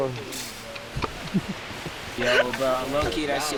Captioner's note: laughing